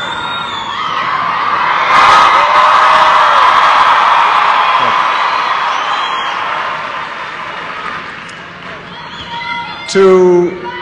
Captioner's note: applause